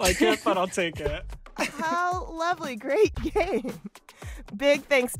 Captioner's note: laughter